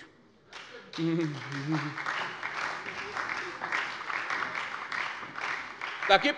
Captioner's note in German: Beifall bei der SPD und der FDP